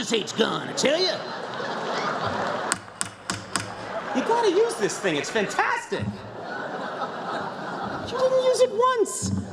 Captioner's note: laughter